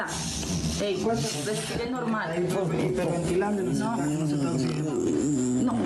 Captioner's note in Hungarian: horkantás